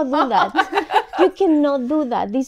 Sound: laughs

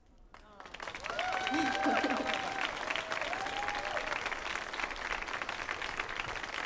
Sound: audience cheers and applauds

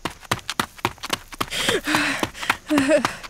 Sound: panting grows

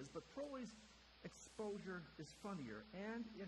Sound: none

